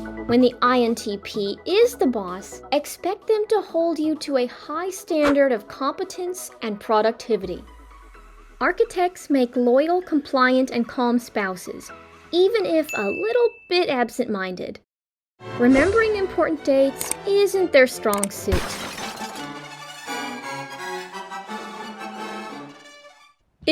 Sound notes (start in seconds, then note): 18.5 crashing sound; 18.8 orchestral music